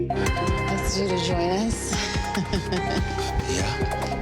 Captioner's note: laughs